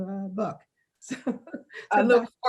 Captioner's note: laughing